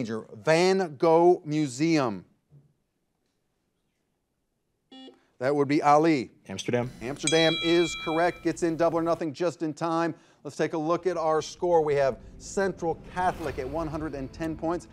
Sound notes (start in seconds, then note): 4.9 buzzer buzzes; 7.1 bell rings